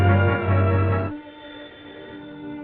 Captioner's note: phone rings